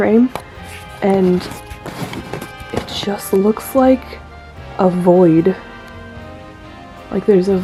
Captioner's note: camera zoom noises